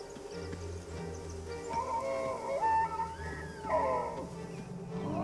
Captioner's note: bellowing